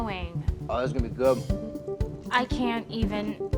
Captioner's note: French